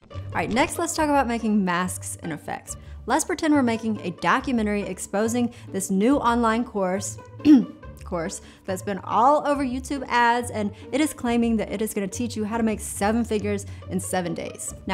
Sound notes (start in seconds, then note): 7.4 clears throat